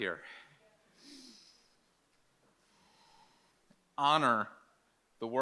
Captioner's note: Michael inhales and exhales